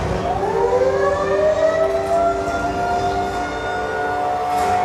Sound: sirens blaring

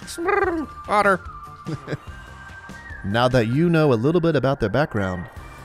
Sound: laughs

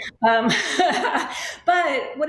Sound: laughing

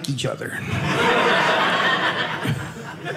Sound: audience laughing

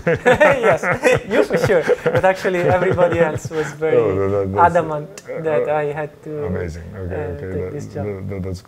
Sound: laughs

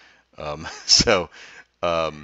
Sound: laughs

